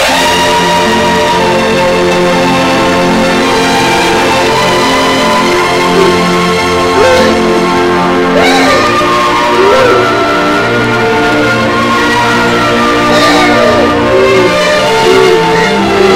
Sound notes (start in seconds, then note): 0.1 dramatic music playing; 8.2 cries loudly